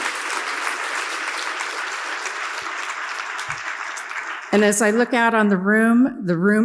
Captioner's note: audience applauds